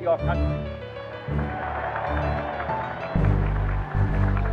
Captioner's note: applause